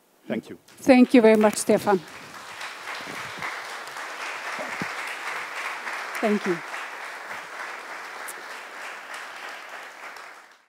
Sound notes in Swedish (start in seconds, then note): 2.7 Applause